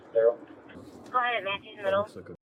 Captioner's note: radio chatter